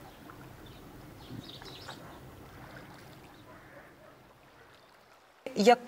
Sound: water lapping at the shore

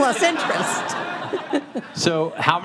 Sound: audience laughing

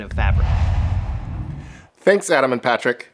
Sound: logo swooshes

